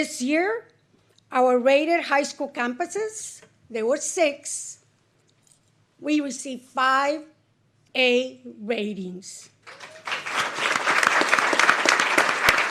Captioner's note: applause